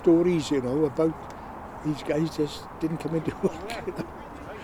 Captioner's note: chuckles